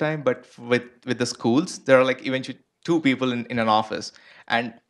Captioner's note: none